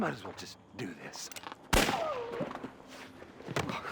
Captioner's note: gunshot